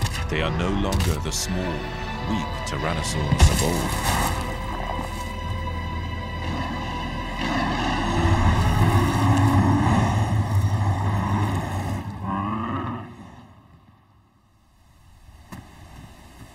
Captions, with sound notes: They are no longer the small, weak, Tyrannosaurs of old. [both growling loudly]